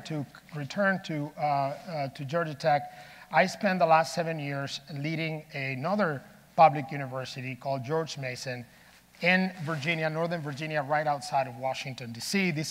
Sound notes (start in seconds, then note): none